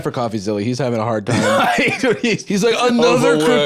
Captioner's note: laughs